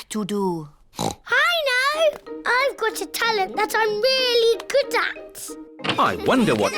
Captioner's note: oinks